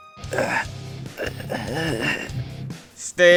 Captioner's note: weak grunting